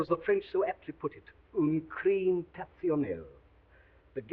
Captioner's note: speaking foreign language